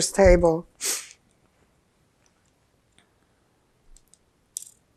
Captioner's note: pauses 6 seconds